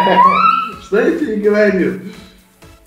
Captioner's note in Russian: Смех